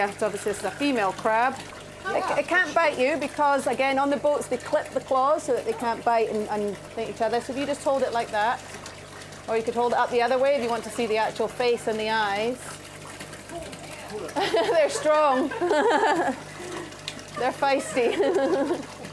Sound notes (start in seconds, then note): 14.2 laughing; 14.3 all laughing